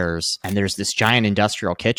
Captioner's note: screen clicking